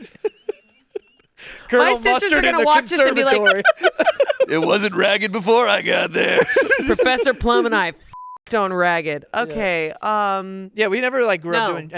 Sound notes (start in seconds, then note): 8.1 beep